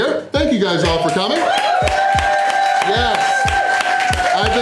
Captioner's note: crowd clapping and cheering